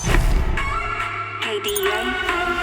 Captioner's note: computer app sounds